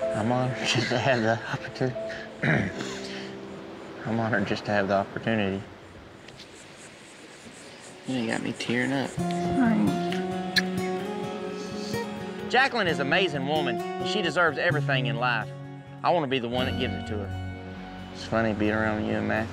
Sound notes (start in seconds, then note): 2.4 clears throat; 9.8 smooch